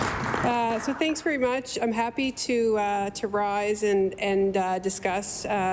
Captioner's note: applause